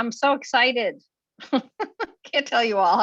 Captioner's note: chuckles